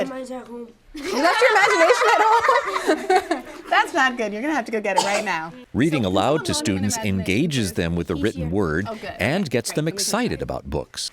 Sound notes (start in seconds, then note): 1.0 laughing